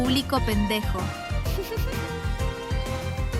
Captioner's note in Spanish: risitas